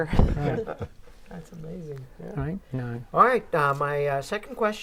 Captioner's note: laughing